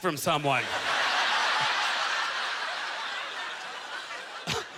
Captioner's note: audience laughter